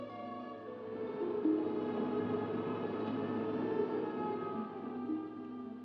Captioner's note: waves rolling